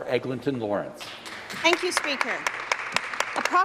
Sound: some Applause

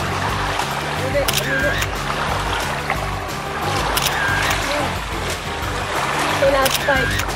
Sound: camera shutter clicks

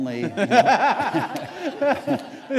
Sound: laughter

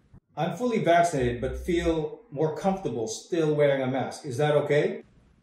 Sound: none

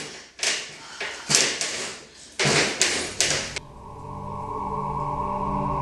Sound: sigh, huff, rattle; rattle, sigh; eerie music

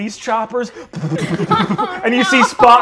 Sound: mimics helicopter blades whipping air

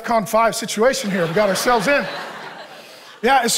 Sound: congregation laughing

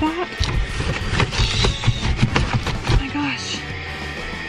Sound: box rustling

